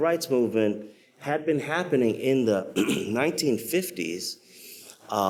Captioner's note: clears throat